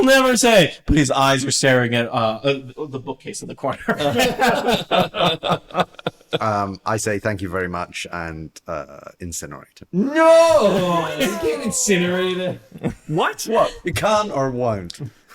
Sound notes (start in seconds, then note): 3.8 laughter